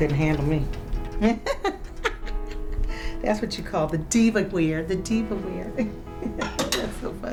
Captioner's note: laughs